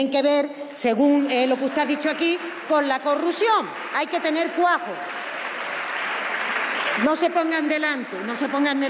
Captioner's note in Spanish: Aplausos.-Protestas